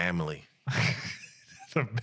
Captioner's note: laughing